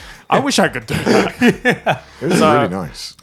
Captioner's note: laughing